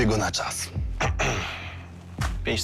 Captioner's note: grunts